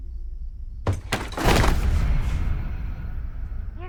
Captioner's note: thudding